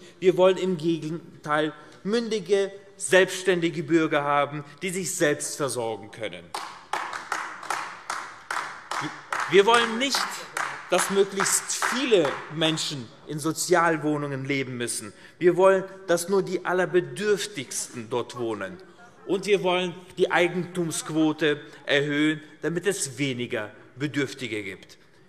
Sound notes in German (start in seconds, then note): 6.5 Beifall AfD